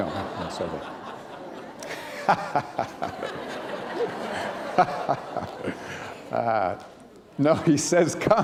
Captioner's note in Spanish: risas